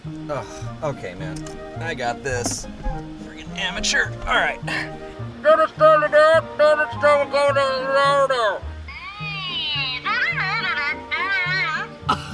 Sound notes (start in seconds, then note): 4.1 groans